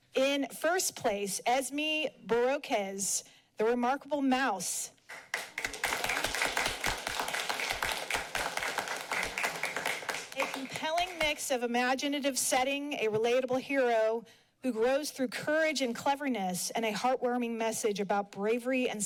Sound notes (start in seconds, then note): 5.0 applauding